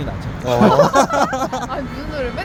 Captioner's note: laugh